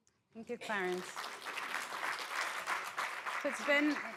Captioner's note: applause